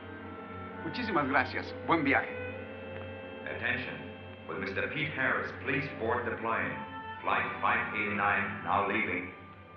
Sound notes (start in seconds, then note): 3.5 man on PA